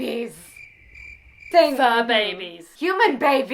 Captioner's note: crickets chirping